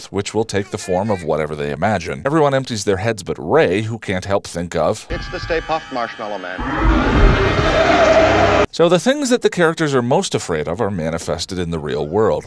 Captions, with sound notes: which will take the form of whatever they imagine. Everyone empties their heads but Ray who can’t help think of... “It’s the Stay Puft Marshmallow Man.” [Stay Puft roar] So the things that the characters are most afraid of are manifested in the real world.